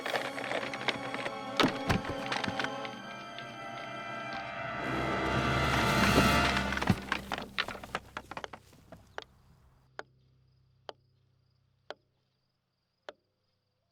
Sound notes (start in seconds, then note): 1.7 thump; 7.1 crash; 9.0 wheel clicking